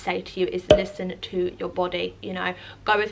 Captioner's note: pop